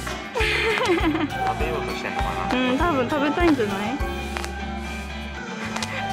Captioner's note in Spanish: risas